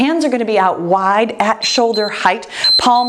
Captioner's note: timer beeps